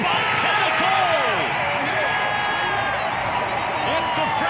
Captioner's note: crowd cheering